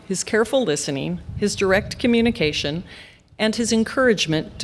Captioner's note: none